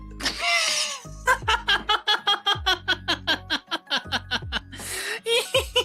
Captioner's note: laughing